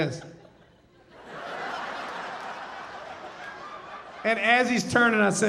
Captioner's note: audience laughing